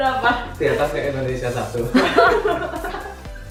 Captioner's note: laugh